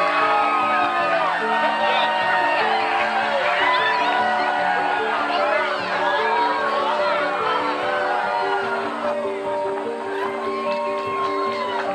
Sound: cheering continues

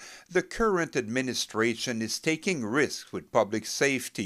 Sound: speaking french

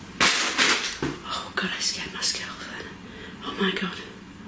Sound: object clatters

